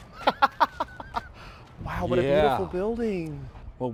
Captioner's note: laughter